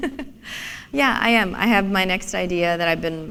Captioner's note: chuckle